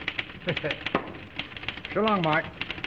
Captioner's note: chuckles